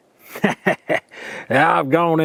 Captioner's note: chuckles